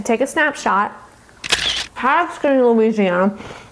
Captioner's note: camera shutter clicking